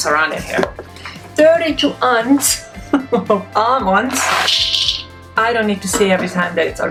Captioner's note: laughs